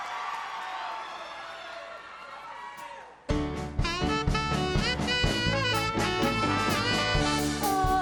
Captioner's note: applause